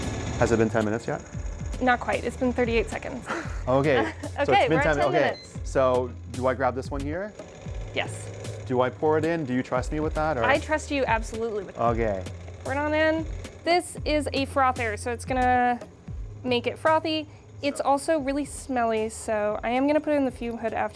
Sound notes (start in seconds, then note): 3.2 laughs; 5.1 beep sound